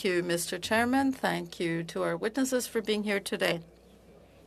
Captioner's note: speaking French